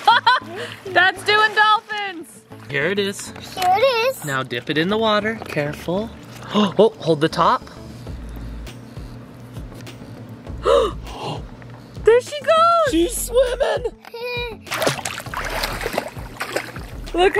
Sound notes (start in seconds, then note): 10.6 gasping; 14.6 splashing